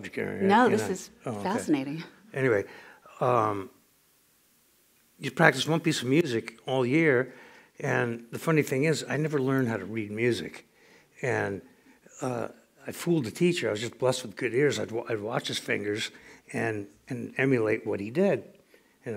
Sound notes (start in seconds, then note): none